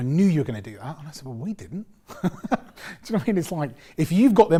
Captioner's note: laughs